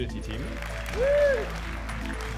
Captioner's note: cheering and applause